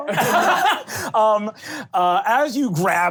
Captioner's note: laughing